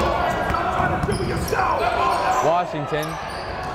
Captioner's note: yelling